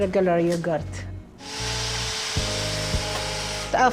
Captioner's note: mixer whirring